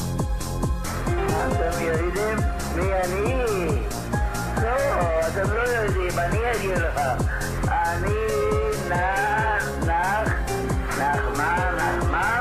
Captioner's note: laughs